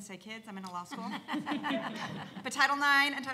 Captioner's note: panel laughs